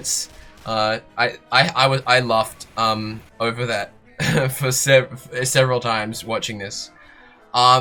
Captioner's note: short chuckle